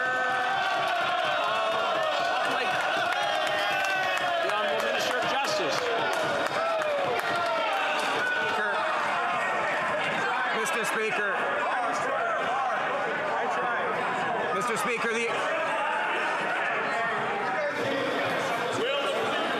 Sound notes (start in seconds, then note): 8.0 yelling